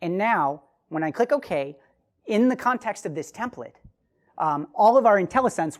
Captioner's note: none